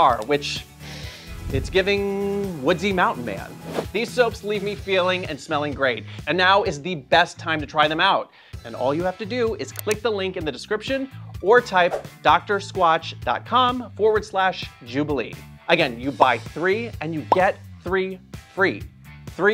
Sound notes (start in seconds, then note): 0.8 sniffs; 3.4 air whooshing